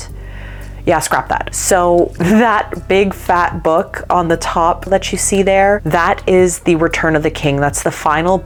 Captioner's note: laughing